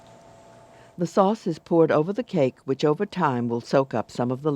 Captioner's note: voiceover